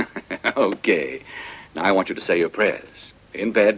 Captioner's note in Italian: ridendo